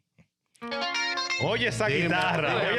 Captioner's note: speaking In Foreign Language